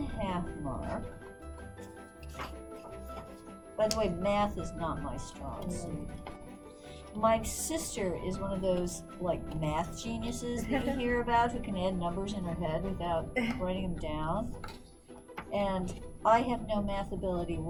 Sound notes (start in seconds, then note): 10.4 laughs